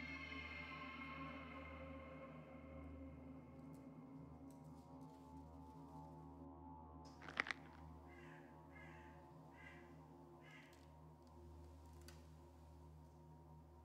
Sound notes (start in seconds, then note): 7.1 bones cracking; 8.0 crows cawing; 10.7 suspenseful music